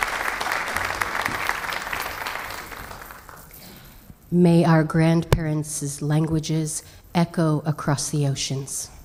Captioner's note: applause